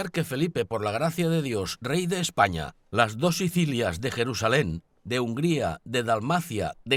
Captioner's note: man speaks in a foreign language